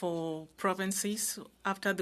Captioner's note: speaking French